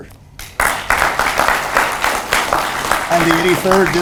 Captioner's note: audience applauds